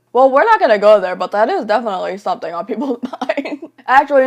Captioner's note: laughs